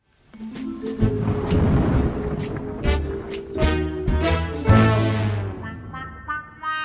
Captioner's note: playful mysterious music; thunder crashing